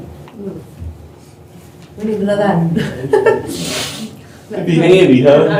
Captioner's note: laughter